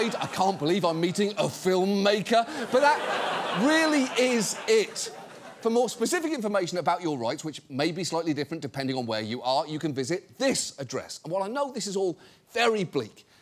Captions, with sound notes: I can't believe I'm meeting a filmmaker. -(STUDIO AUDIENCE LAUGHS) -But that really is it. For more specific information about your rights, which may be slightly different depending on where you are, you can visit this address. And while I know this is all very bleak,